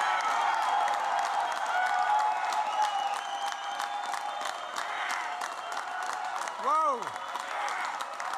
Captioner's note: applause